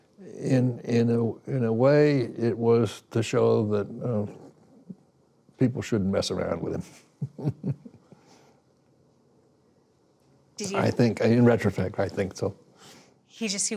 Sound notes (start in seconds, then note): 7.2 laughs